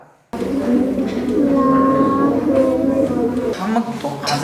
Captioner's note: dicussing in low voice